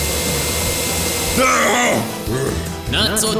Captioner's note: brobot inhales; bowser screams